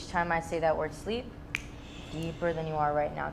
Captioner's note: exhaling; fingers snapping